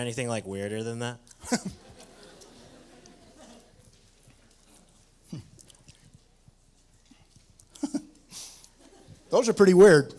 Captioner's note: laughter